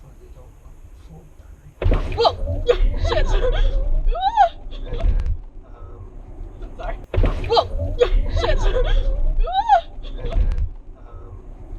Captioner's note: squeals